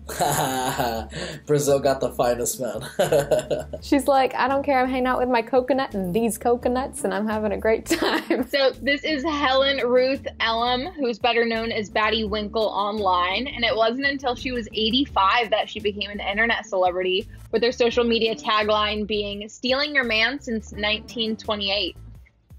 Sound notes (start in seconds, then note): 2.8 chuckles; 8.1 laughs